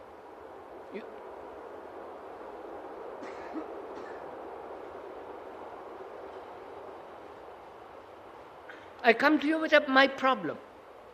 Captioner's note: sound of train